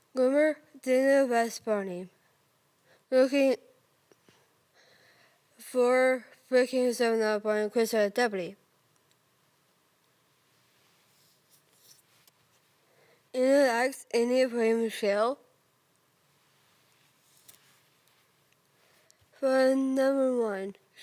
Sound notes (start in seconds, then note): 4.7 soft breathing; 8.5 rustling; 16.3 rustling